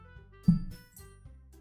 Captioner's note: maintenance worker hitting hammer